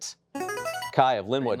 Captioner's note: buzzer chimes